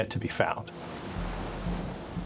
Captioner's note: waves splashing